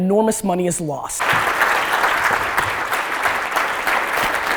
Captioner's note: audience applause